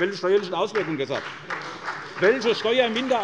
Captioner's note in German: Beifall bei der SPD